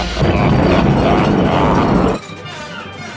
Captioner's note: laughing